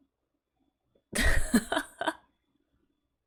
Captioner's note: laughs